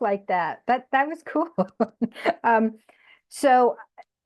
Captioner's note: laughs